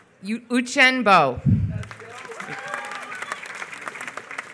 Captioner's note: applause